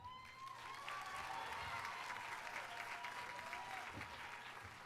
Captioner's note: audience applauding